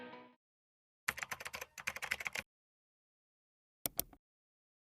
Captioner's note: keyboard clicking; mouse clicking